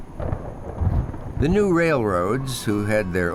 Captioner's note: thunder